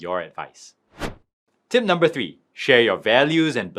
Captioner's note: screen wipe whooshes